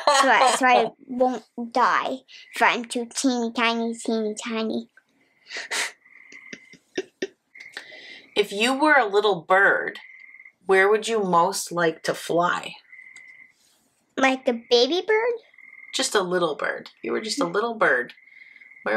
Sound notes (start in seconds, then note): 0.0 laughing; 6.3 chuckling